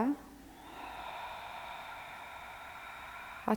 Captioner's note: exhale